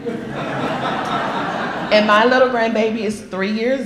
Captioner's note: laughter